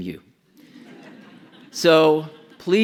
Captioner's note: audience laughs